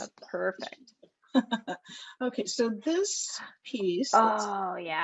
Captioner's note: laughs